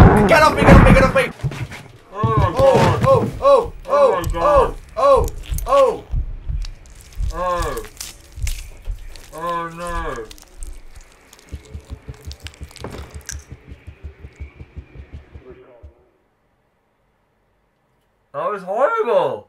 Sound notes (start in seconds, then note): 3.5 gasps